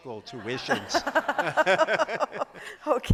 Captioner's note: laughter